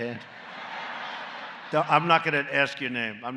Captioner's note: laughter